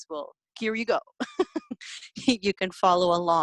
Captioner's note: laughter